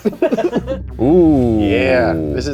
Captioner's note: laughs